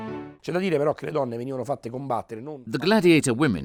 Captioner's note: speaking in foreign language